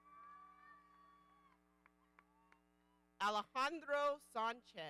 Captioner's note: audience cheering